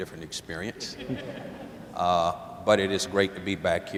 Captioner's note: laughter